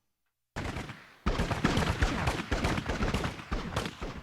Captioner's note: guns firing